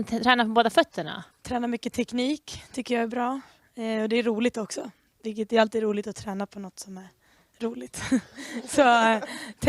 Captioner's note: some of the kids laugh